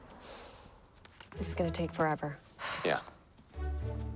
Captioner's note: sighing